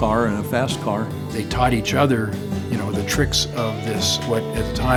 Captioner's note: pat